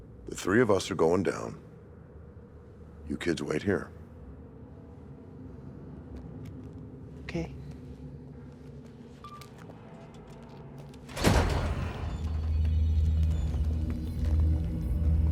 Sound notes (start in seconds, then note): 11.1 door squeaks; 12.7 eerie music